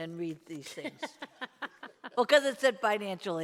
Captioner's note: laughing